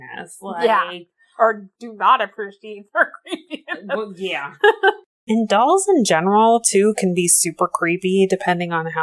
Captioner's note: laughs